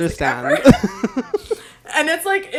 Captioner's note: both laugh